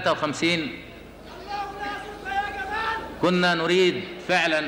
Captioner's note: screaming in the audience